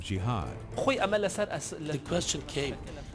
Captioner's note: speaks in foreign language